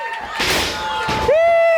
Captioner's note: body thuds